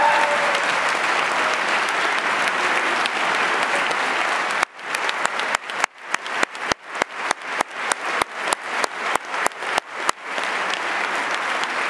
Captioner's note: applause